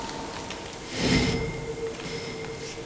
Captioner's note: resounding clanging of the comb